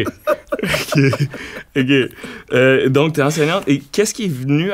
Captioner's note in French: rires